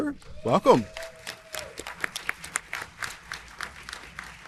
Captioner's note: audience applauding